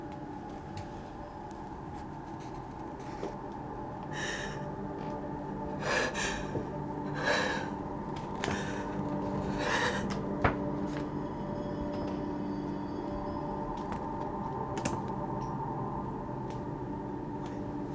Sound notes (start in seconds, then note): 4.3 heavy breathing